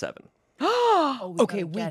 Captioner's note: gasps